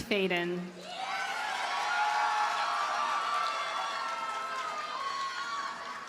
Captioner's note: audience cheers and applauds